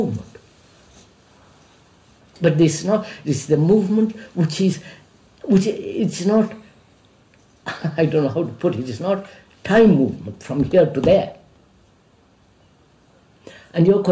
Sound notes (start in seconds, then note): 5.7 laughs